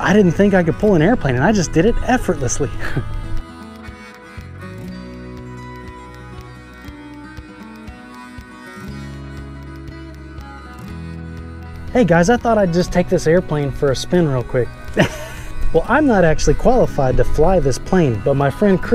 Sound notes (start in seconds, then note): 3.0 lighthearted music continues; 14.8 chuckling